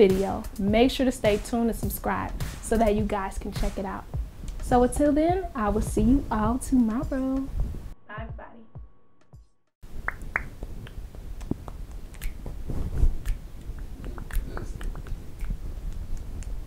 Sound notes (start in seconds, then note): 9.8 beat boxing